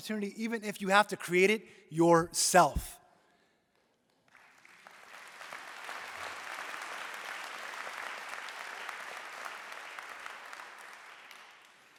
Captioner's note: applause